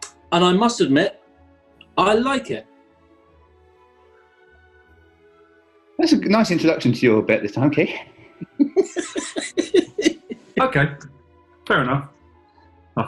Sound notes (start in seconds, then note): 7.7 chuckling